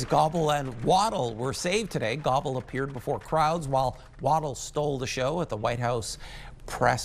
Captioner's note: applause